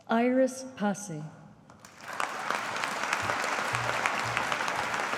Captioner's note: audience applauding